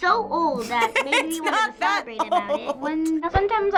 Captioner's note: laughing